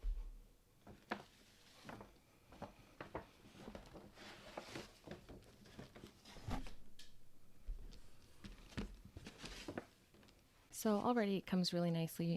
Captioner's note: unboxing sounds